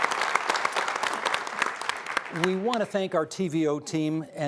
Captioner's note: applause